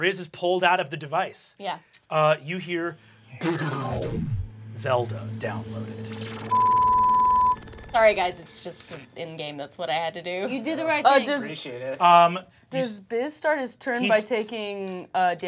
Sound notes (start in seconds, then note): 3.4 mimics sound waves; 6.4 beep